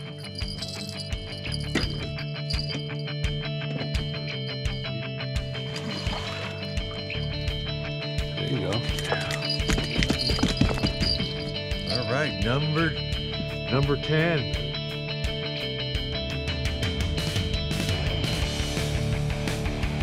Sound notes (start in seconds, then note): 3.0 jangling; 8.9 fish thrashing